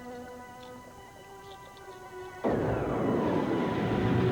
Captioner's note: distant explosion